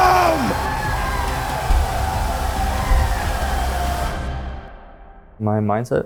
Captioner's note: crowd cheers; triumphant music swells